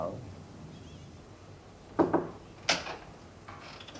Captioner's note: knocking